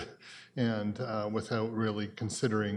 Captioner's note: chuckles